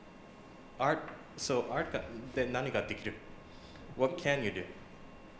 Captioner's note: japanese